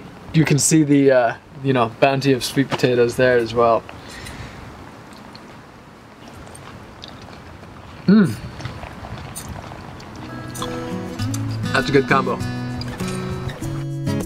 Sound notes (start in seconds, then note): 8.4 chewing